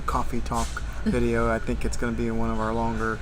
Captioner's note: laughing